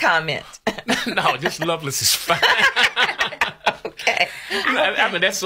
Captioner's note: laughs